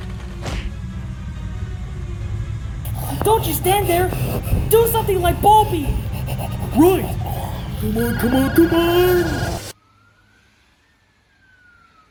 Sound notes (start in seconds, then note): 2.8 angry Gibberish